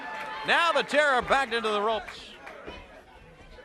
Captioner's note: crowd cheering